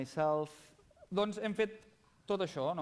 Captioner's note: non-english speech